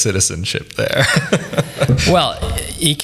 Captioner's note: laughs